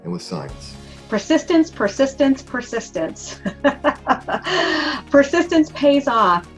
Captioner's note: laughs